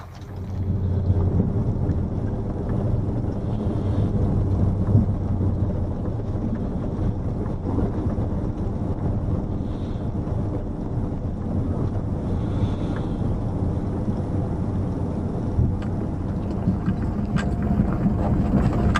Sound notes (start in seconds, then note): 0.8 engine noise